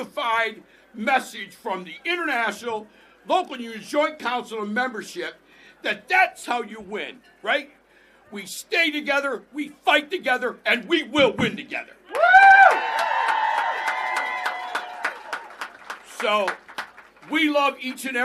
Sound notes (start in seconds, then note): 16.7 applause